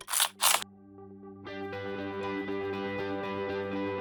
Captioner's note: shutter sound